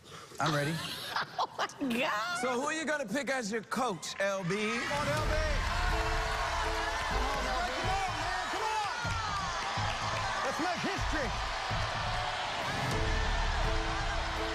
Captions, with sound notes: [ Laughing ] So, who are you gonna pick as your coach, LB? -Come on, LB! -Come on, LB. Let's go, man. Come on! [ Audience shouting ] Let's make history. [ Shouting continues ] -Come on, LB. -Come on, come on, come on!